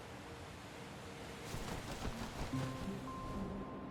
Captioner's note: wings flapping